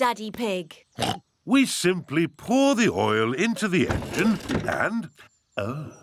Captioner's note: oinks